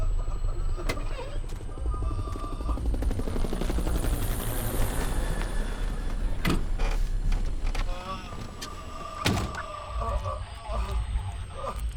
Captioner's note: wailing